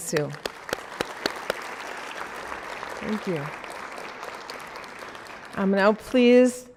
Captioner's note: applause